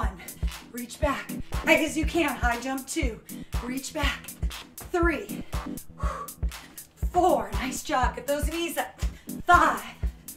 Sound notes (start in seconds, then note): 5.3 exhaling